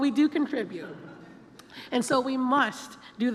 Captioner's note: laughter